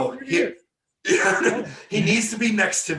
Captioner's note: laughing